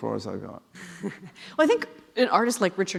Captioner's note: laughing